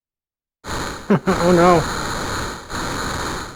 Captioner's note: chuckles